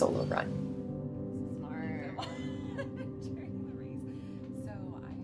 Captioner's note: laughs